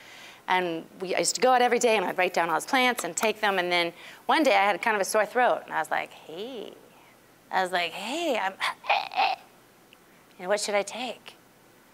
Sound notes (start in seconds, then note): 8.8 croaking